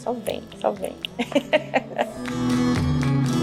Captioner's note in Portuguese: risos